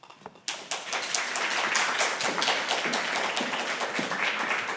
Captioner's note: applause